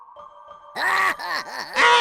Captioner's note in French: Rire du roi Boo